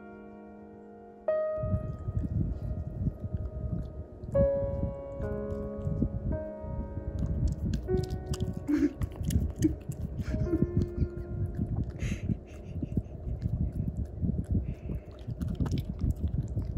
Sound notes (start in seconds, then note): 8.5 laughs